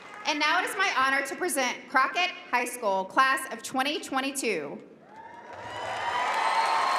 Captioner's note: applause